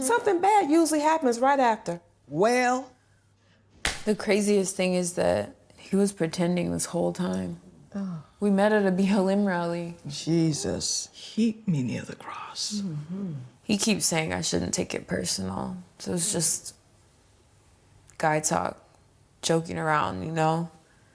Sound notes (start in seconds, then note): 3.8 slapping hands